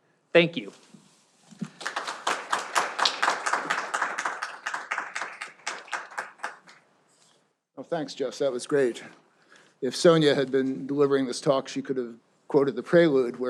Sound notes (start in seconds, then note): 1.6 audience applauding